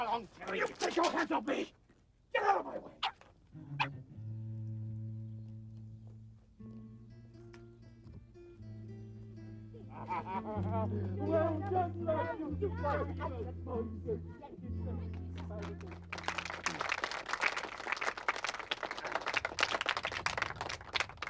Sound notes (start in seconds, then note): 3.5 William barking; 7.0 upbeat music; 9.7 man laughing; 10.7 children speaking faintly; 15.1 crowd applauding